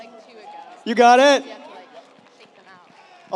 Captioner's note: audience applauds